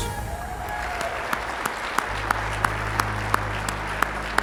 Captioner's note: audience applauding